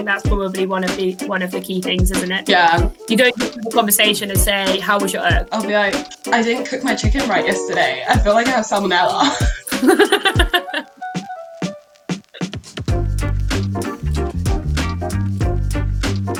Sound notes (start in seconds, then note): 8.9 laughing; 12.8 upbeat music